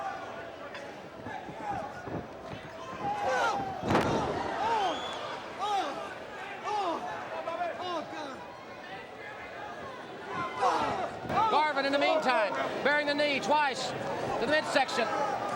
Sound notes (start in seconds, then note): 3.8 body thudding